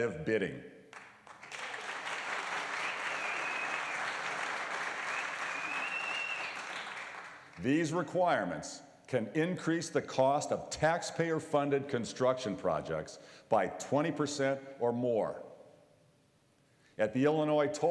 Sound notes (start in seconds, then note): 4.2 applause; 4.9 whistleing